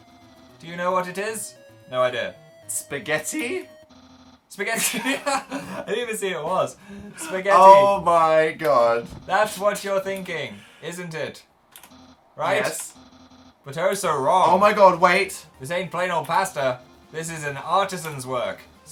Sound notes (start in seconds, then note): 4.7 both laugh